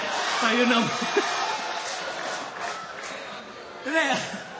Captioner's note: laughter